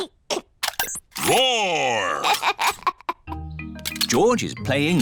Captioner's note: giggles